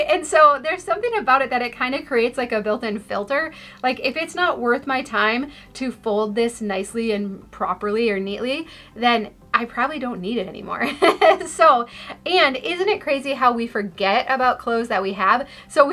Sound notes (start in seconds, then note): 11.0 laughs